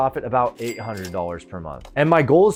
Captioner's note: cash register dings